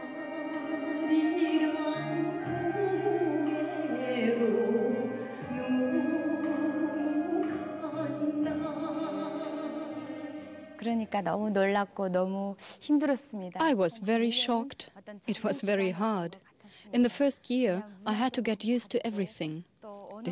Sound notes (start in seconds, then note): 10.9 speaks foreign language